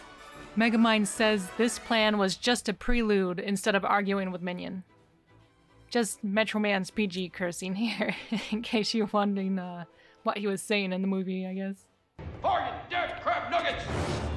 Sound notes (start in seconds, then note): 7.8 laughing